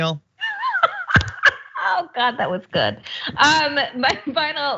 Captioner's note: laugh